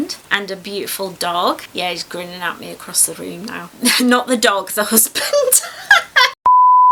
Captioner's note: laughs